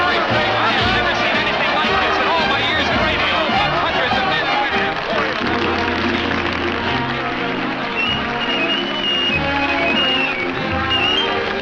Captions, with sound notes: I’ve never seen anything like this in all my years in radio 100. [trailing off] [crowd cheering]